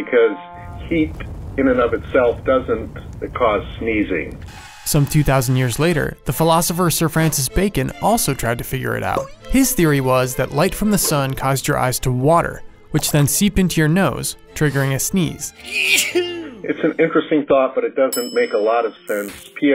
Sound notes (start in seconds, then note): 15.6 sneezing